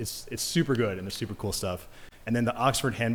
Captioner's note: none